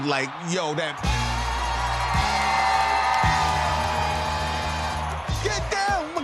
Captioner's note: cheers and applause